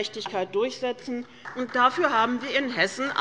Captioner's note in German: Beifall